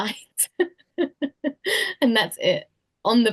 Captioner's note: laughs